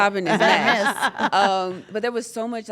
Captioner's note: laugh